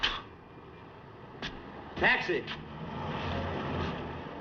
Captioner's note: vehicle Approaching